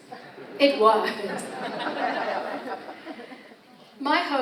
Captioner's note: audience laughs